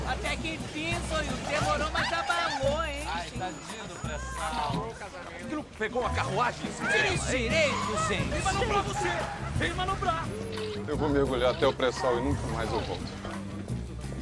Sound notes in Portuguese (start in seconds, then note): 4.8 Outra voz